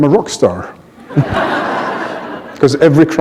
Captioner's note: laughter